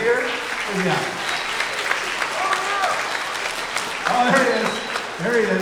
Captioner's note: everyone applauding